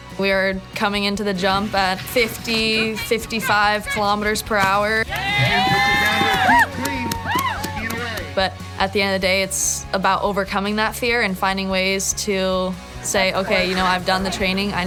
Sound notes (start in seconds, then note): 5.4 crowd cheering